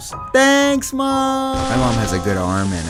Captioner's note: crash sound